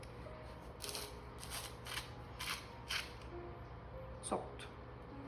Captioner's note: salt grinding sounds